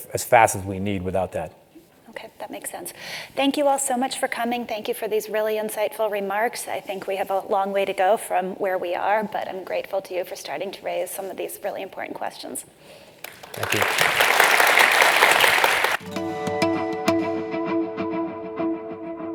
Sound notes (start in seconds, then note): 13.2 applause